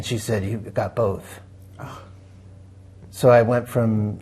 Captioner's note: gasps